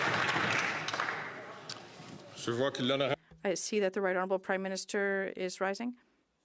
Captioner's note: some Applause